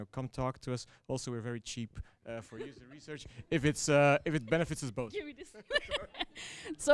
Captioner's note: laughter